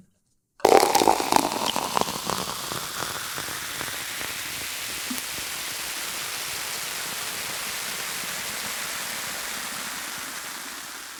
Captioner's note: 倒酒聲